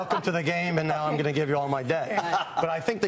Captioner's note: laughter